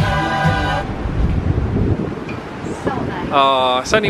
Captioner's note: singers vocalising; wind whipping